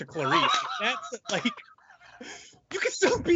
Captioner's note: laughing loudly